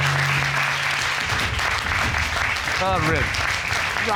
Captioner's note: audience clapping